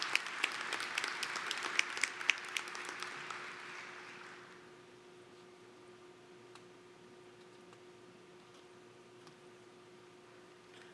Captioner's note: applause